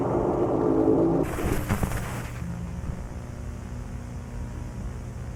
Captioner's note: static hissing